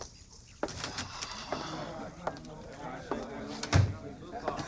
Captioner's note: footsteps; crowd chattering